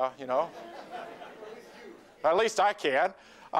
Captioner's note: laughter